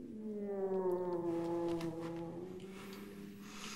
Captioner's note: groaning